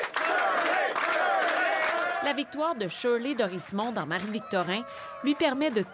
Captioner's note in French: acclamations